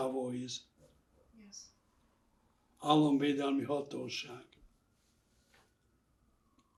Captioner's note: speaking hungarian